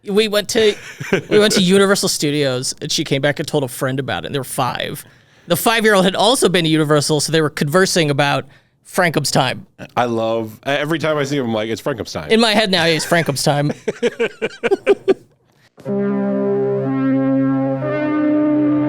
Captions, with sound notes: - We went to Universal Studios and she came back and told a friend about it. They were five. The five year old had also been to Universal, so they were conversing about Frankem's time. - I love, every time I see him, I'm like it's Frankem's time. - In my head now, it's Frankem's time. [both laughing] [enlightening music]